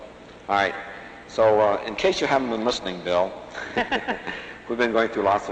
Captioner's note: laughter